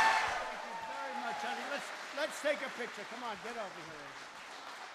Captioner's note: applause